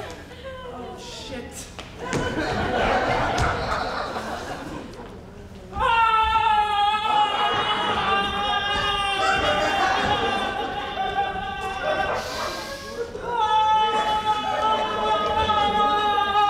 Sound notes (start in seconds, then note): 2.1 audience laughs; 6.2 Grumio shouting; 12.1 Grumio inhales; 13.5 Grumio shouting